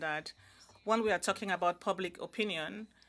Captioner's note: speaking in French